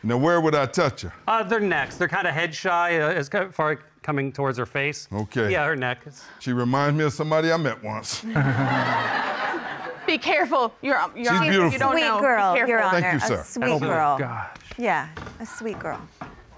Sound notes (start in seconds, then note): 3.2 stammers, stutters; 8.2 laughter; 8.2 chuckles; 10.8 stammers